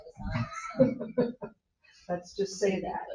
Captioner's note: host laughs